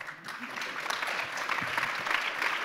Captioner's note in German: Applaus